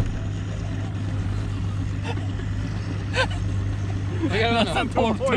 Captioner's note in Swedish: Laughing